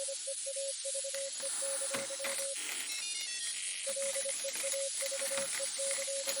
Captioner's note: Bastian's tools faintly clink and clank as he disconnects the power to the probe